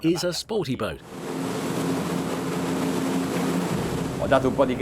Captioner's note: engine whirring